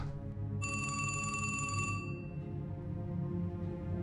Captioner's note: phone ringing